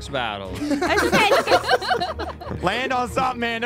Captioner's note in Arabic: يضحك المشاركون